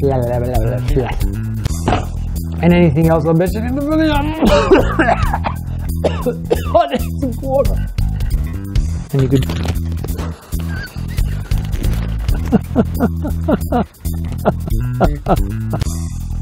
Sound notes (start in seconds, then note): 4.4 coughs; 10.2 laughs